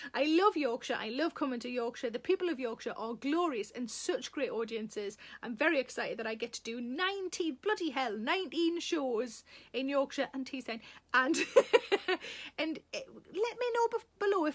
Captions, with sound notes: I love Yorkshire, I love coming to Yorkshire, the people of Yorkshire are glorious and such great audiences. I'm very excited that I get to do 19, bloody hell, 19 shows in Yorkshire and Teesside. (Sarah laughing) And let me know below